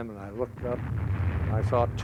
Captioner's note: exploding